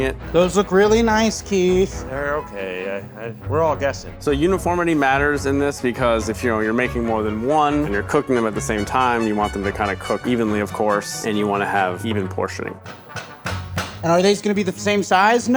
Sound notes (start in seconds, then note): 6.2 lively music continues; 12.9 fist thumping